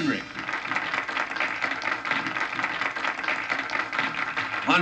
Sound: audience applauding

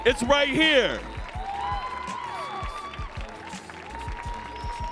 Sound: audience cheering

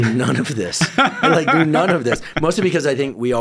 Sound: laughing

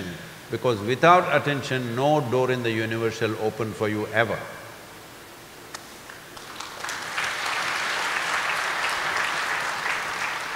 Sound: applause

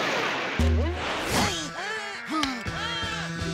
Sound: gasping

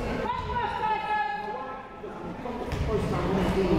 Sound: shouting

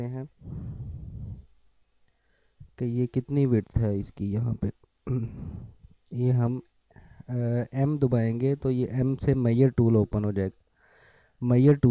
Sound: urdu/hindi

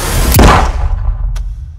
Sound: bullet shot

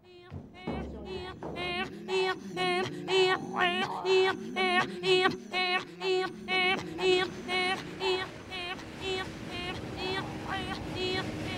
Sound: group Chanting

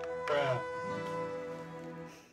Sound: somber music; voiceover

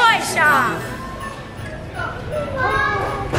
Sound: cheerful Christmas music; kids yelling

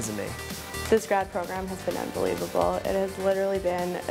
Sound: voiceover

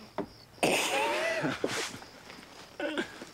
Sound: laughs

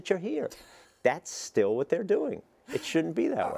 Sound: laugh

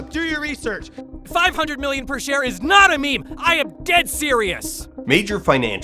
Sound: narrator, yelling

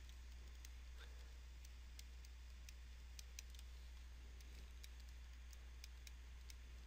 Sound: clicking sounds

